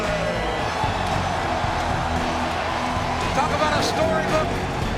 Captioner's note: crowd cheering; upbeat rock music